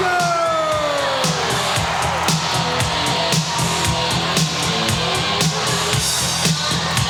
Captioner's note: audience cheering; upbeat music